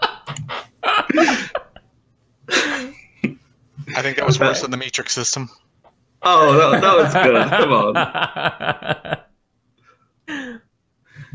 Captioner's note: awkward laughter; laughter